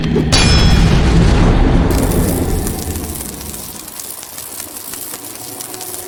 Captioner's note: metal clanging; electricity crackling